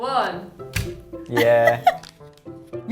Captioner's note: sound of Peperami smacking table; laughs